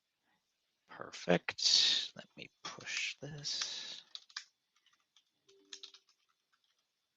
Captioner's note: keyboard clicking